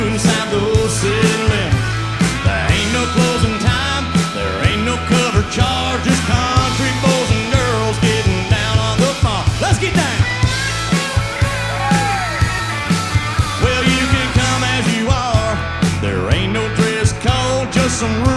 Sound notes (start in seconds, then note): 10.2 guitar solo plays; 11.1 crowd cheers